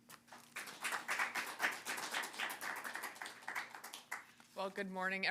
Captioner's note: audience applauding